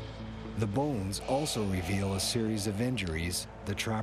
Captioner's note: voiceover